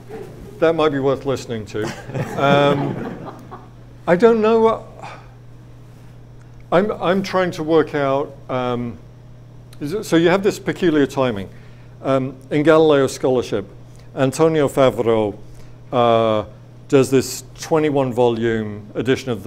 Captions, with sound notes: That might be worth listening to. (audience laughs) I don't know... I'm trying to work out... So you have this peculiar timing in Galileo scholarship. Antonio Favaro, does this 21 volume edition